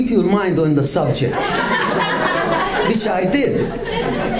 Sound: laughter

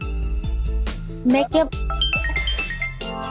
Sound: phone rings

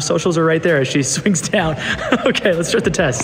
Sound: laughs

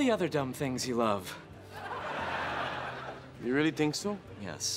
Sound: audience laughing

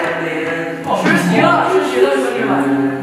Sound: laughing at others misery

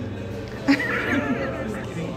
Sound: laughter

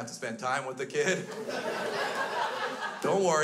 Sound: crowd laughs

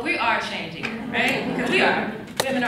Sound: laughs

